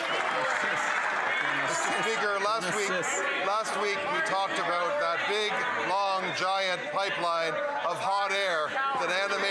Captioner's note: some Applause